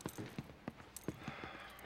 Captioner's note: sighs